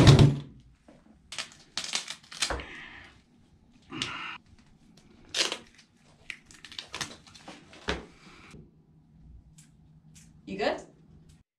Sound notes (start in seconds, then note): 1.3 duct tape tearing; 3.8 annoyed sigh; 5.0 duct tape stretching